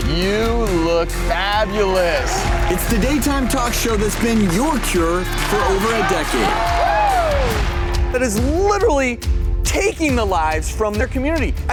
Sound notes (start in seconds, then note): 6.5 audience cheering